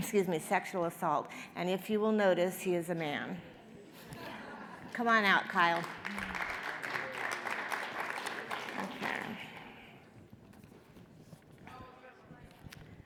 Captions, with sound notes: excuse me, sexual assault. And if you will notice, he is a man. (audience laughs) Come on out, Kyle. (audience applauds)